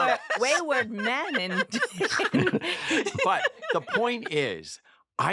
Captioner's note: laughter